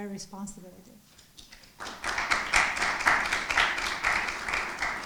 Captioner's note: audience applauding